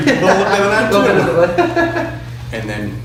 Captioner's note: both laugh